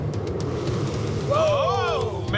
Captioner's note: all shouting